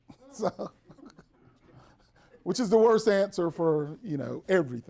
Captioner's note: everyone laughs